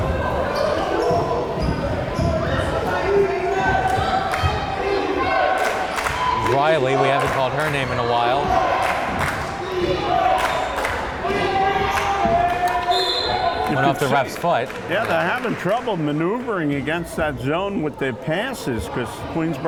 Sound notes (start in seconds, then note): 8.7 crowd chanting defense